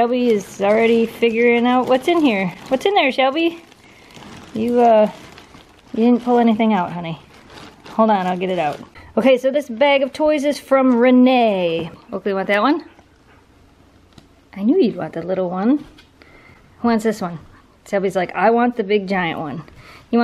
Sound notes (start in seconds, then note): 4.4 plastic bag noises